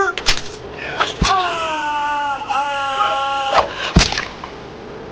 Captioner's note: man groaning; blood squelching